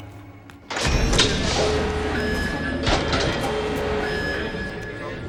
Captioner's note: alarm sounding; tense music continues